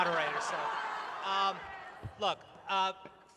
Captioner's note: laughter